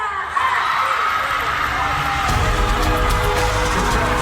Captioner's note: crowd cheering